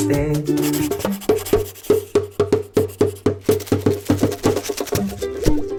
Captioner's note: pencil writing; drum beat plays